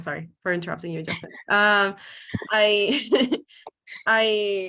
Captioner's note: laughs